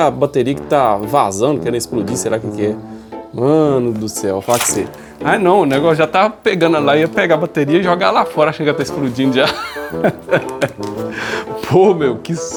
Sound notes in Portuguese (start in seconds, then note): 9.4 risadas